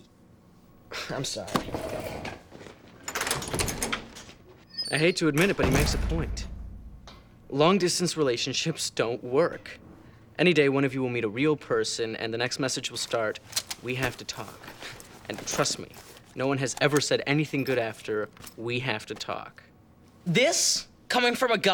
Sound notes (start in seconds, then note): 2.9 door opens